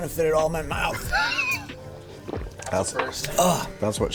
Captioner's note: laughing